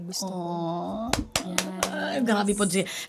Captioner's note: clapping